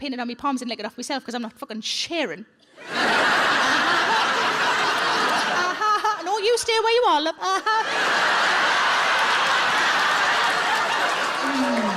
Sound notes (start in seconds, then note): 2.8 audience laughs; 7.6 audience laughs and applauds